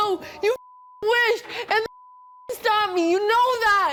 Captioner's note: beep